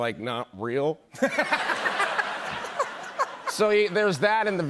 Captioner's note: laughter